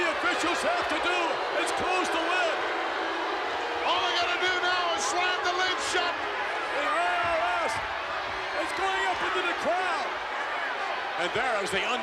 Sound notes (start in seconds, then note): 2.8 crowd booing